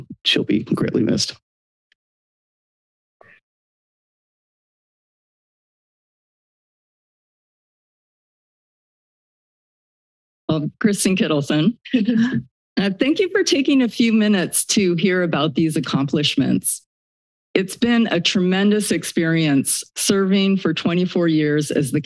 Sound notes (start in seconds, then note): 2.2 silence; 11.8 laugh